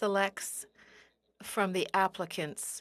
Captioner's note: speaking French